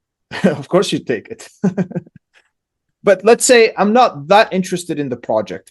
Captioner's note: laughs